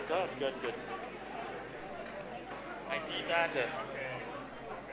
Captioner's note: background chatter